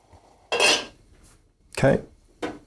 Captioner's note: pot clangs